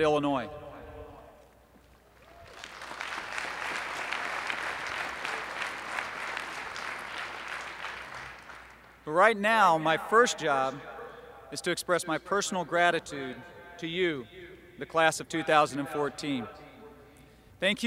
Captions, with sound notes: at Illinois. [applause] But, right now, my first job is to express my personal gratitude to you, the Class of 2014.